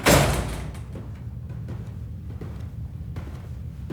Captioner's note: none